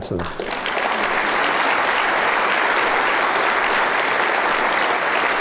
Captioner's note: applause